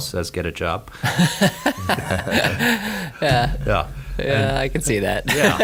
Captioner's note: all laugh